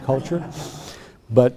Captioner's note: laughter